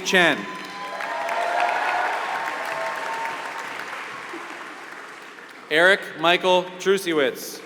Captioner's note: applause